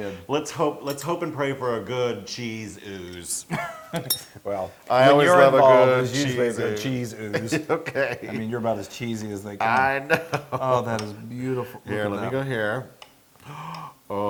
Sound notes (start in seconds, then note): 3.4 laugh; 9.7 laugh